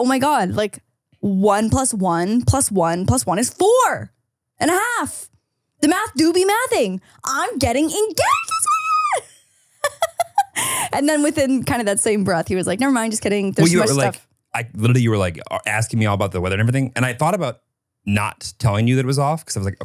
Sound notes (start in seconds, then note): 9.8 laughs